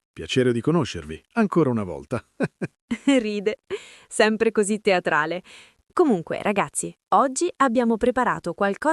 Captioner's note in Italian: risate